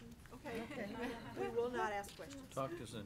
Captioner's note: board members laugh